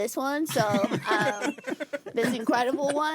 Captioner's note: laughing